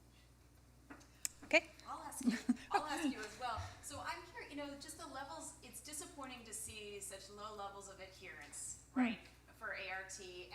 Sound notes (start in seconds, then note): 2.2 chuckling